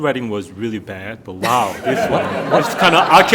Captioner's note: audience laughing